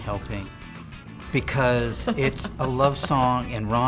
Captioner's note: laughing